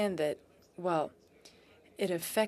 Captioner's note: speaking in French